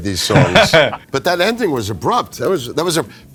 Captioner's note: laughs